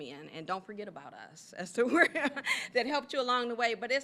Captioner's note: laughing